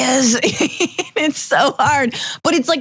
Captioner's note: laugh